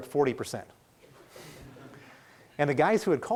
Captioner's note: laughing